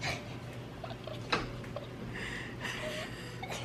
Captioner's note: laughs